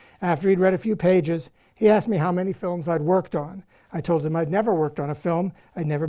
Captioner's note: none